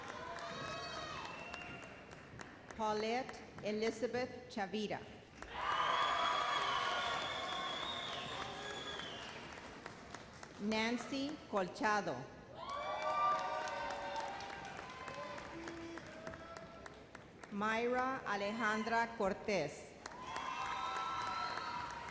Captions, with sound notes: Paulette Elizabeth Chavira. (thunderous cheers) Nancy Colchado. (cheers and applause) Mayra Alejandra Cortes. (audience applauds)